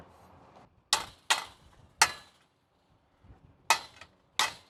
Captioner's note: mallet banging